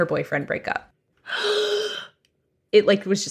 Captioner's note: gasps